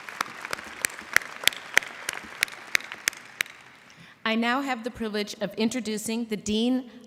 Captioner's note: applause